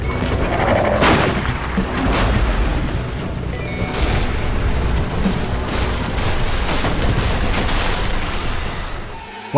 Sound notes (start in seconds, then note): 0.8 quiet sounds of things collapsing; 0.9 pow